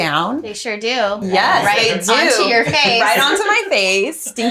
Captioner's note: all laughing